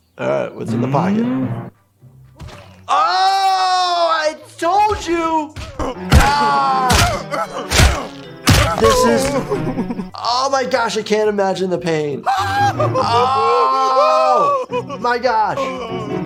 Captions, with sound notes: All right, what's in the pocket? Oh! I told you (painful cries and thuds) This is- Oh my gosh. I can't imagine the pain. (painful cries) Oh my gosh.